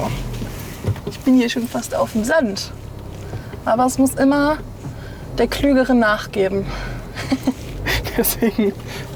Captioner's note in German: lacht